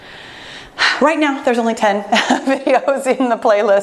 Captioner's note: laughs